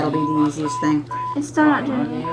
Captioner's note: electronic tones